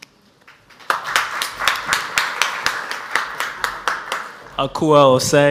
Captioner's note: audience applauds